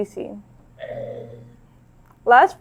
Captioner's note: zombie groans